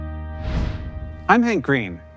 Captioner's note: bright music; animation swooshes